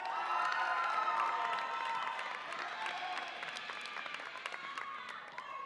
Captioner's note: audience applauds and cheers